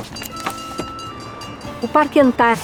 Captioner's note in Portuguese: sineta de bonde